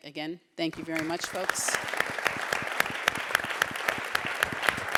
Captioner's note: audience claps